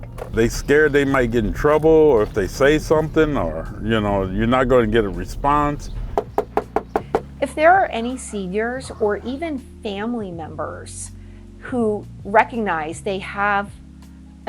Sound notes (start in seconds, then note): 5.0 knocking